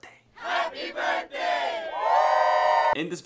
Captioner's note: crowd; cheering